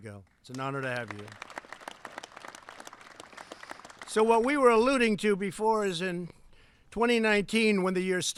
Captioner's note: applause